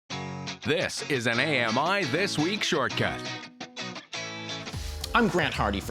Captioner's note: voiceover